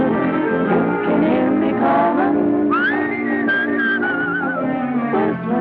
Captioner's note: whistling; singing